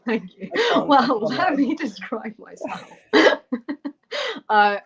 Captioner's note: laughter